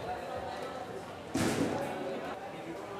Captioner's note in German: Kurzes Poltern